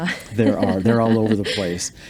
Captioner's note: laughs